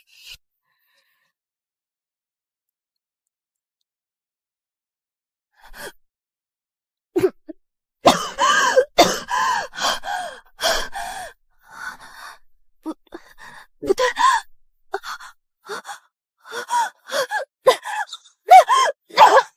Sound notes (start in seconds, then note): 8.0 cough